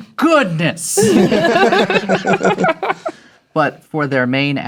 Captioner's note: players laughing